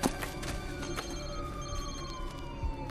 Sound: phone ringing

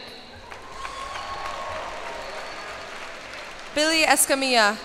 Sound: cheers and applause

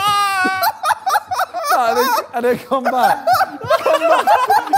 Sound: laughing

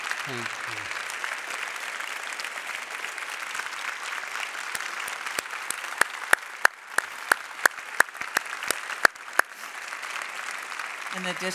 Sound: applause

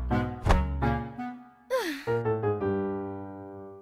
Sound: huffs

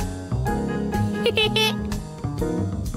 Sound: laughs

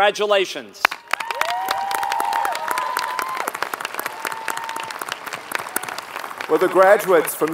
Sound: applause

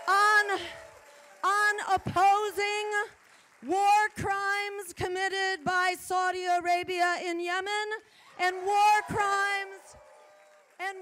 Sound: applause

